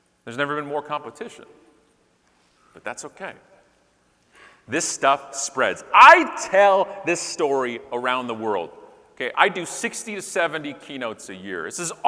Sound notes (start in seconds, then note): none